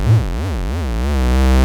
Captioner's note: humming